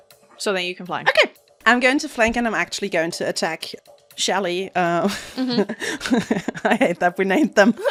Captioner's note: laughs